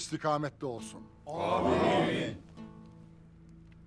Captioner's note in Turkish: Hep bir ağızdan